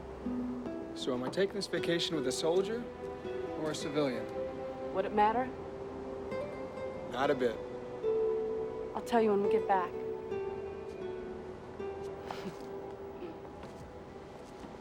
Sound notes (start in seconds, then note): 12.2 chuckles